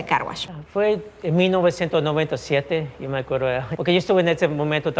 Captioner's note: speaking in Spanish